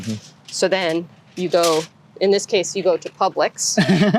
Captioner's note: laughter